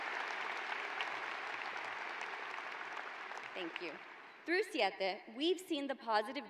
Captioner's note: cheers and applause